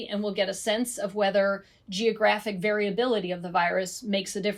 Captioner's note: none